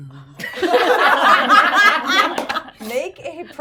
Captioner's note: everyone laughing